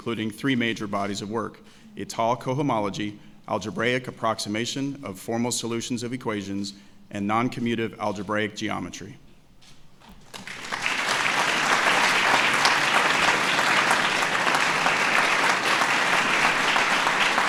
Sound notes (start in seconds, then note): 14.1 applause